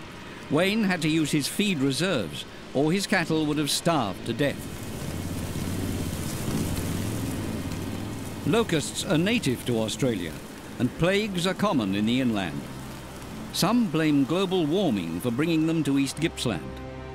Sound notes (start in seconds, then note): 5.4 locusts buzzing